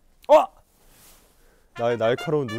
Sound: confident

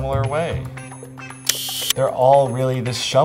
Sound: sound of camera shutter clicking

